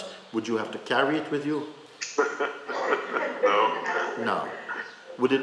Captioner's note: laughter